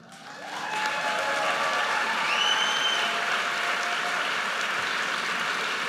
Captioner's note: audience cheers and applauds